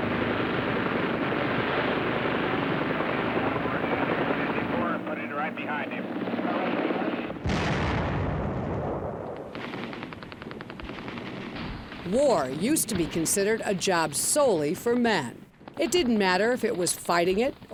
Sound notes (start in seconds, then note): 0.0 helicopter blades whirring; 6.0 explosion booms; 9.4 machine gun firing